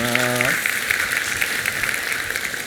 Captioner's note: applause